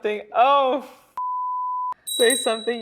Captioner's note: beep